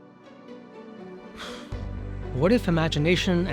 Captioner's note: gentle bright music; exhales